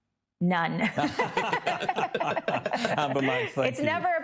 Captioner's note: group laugh